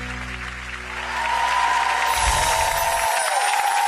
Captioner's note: cheering